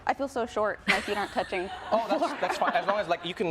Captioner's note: laughing